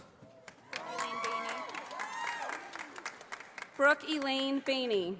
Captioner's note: audience applauding